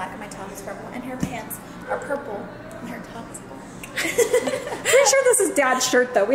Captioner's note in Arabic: يضحك